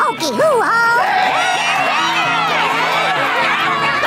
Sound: cheering; screaming

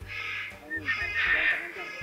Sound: whistling

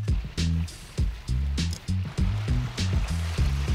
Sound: funky music; water rushing

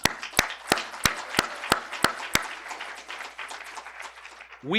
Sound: applause

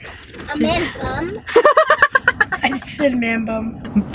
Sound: laughs

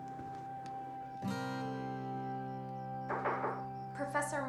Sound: insects chirping; Hanna knocking

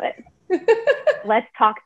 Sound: laughing

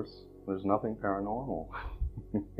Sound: laughs

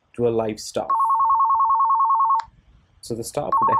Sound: phone ringing

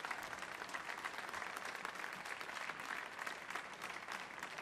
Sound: audience applauds

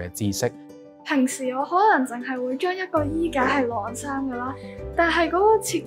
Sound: Cantonese

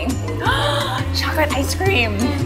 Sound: gasps

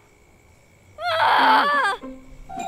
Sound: she screams again

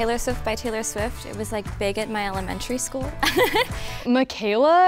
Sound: giggles

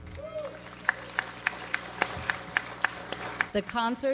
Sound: audience applauds

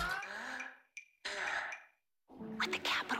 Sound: breathing sound

